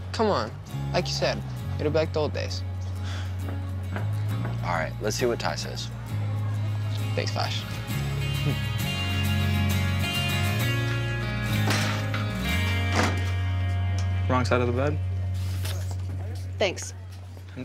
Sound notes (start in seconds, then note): 12.8 locker slams